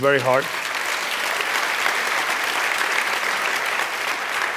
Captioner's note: applause